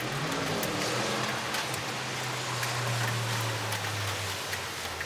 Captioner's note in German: Verkehrslärm und Regen